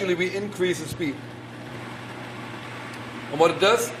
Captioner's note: blender noise increases